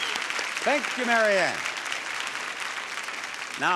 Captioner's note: audience applauds